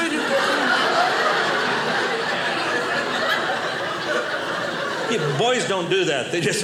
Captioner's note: audience laughing